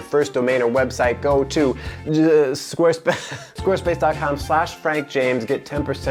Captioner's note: laughs